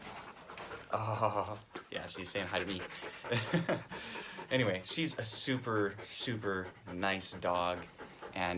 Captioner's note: laughs